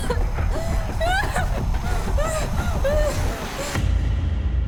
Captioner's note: Abby coughs; Abby whimpers; dramatic musical score